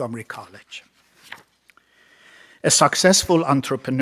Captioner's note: page turns